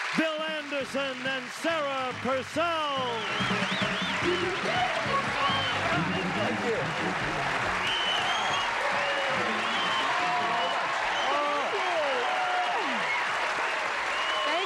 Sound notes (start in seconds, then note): 8.5 cheers and applause